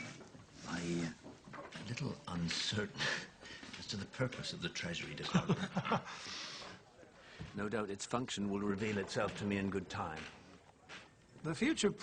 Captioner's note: laughter